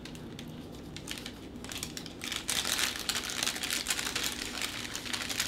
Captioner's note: plastic crinkling